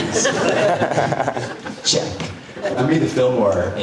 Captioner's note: audience laughing